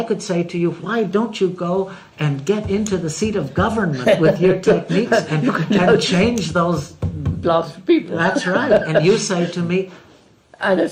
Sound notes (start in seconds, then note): 6.4 laughs